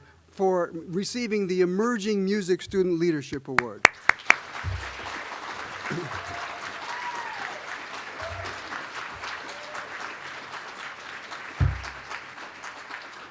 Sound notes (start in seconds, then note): 3.9 applause